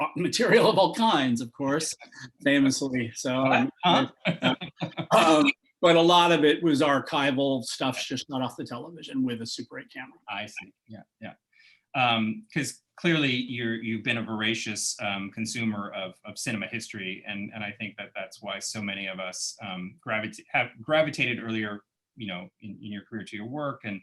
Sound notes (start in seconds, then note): 4.2 laughter